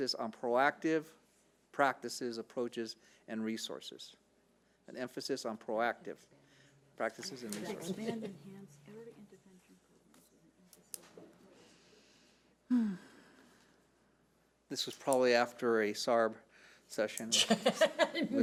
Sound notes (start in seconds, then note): 12.7 sighing; 17.3 laughing